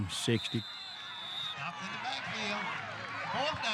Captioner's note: whistle blows, crowd cheering